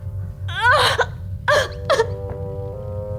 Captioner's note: crying